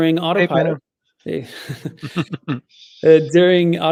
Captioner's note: chuckles